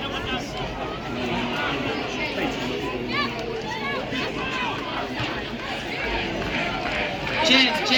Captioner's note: cheering, developing into a chant for " !"